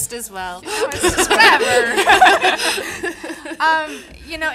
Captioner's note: audience laughing